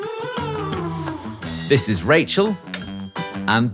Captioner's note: bell dings